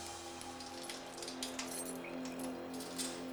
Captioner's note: door unlock